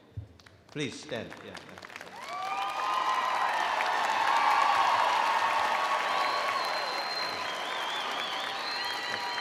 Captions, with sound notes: Please, stand, yeah. (audience cheering)